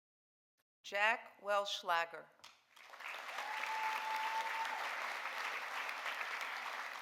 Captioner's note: audience applauding